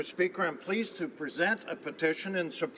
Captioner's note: speaking French